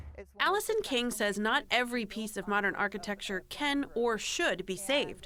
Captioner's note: voice-over